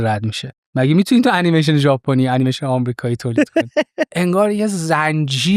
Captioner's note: laughs